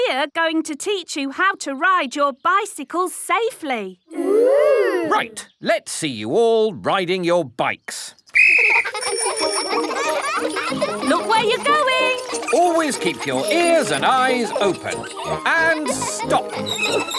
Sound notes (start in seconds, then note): 8.3 blows whistle; 9.4 giggling and ringing bells